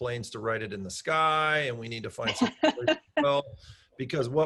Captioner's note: laughing drowns out speech